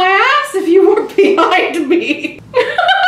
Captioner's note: laughs